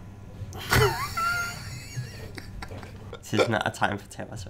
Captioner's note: laughing